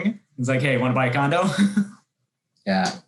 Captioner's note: laughs